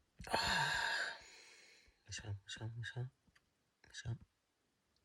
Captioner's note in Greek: αναστενάζει